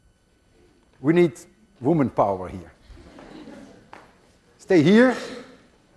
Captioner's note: class laughs